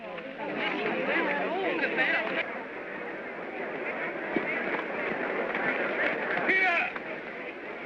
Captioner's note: indistinct crowd chatter